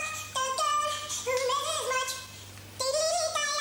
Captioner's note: humming